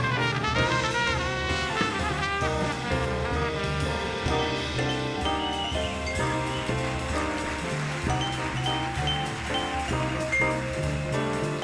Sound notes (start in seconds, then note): 7.8 audience applauding